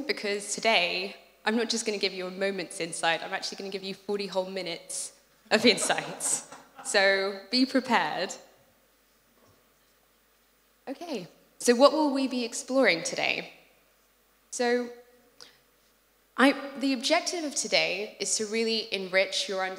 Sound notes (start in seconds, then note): 5.5 laugh